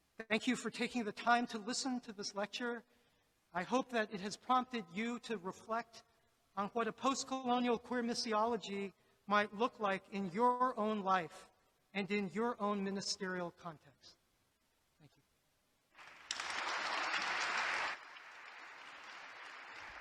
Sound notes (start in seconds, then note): 15.9 audience applauds